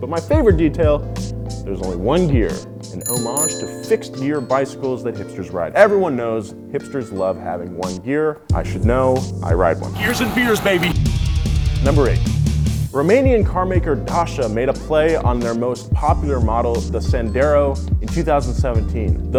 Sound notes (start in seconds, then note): 3.0 bell rings; 9.9 rock music